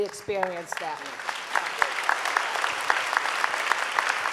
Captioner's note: clapping